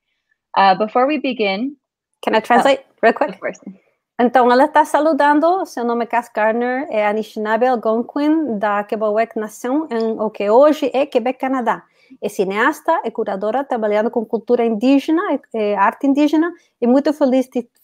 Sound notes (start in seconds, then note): 5.8 speaks portuguese